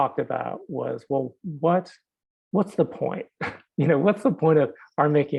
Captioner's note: chuckling